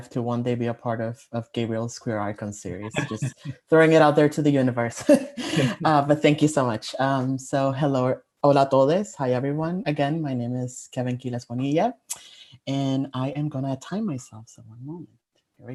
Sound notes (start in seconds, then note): 5.1 chuckles